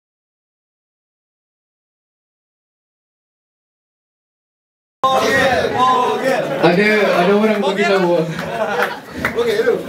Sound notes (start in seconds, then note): 5.0 crowd pleading